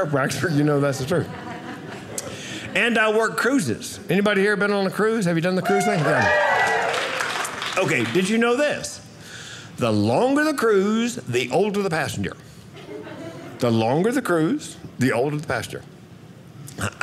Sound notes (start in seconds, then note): 5.6 audience cheering